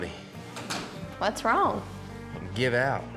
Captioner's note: door closes